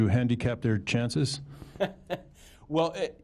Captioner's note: laughter